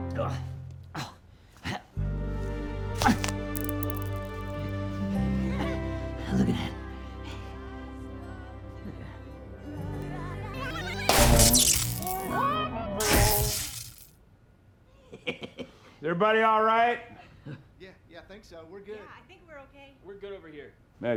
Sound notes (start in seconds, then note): 1.0 grunting; 5.9 laughs; 14.6 clint chuckling